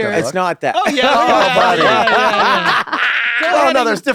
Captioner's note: laughter